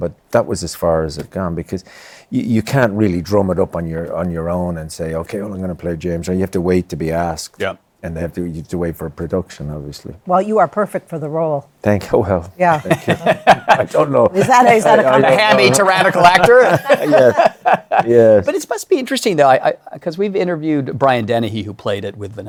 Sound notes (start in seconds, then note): 12.7 laughs; 16.8 laughter